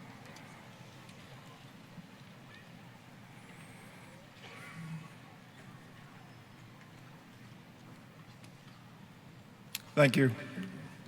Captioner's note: silence